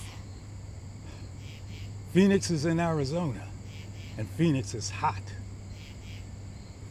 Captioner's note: scoffs